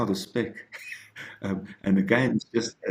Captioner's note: giggles